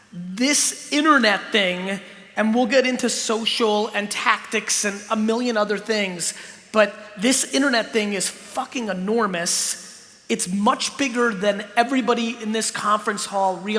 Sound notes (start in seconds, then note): none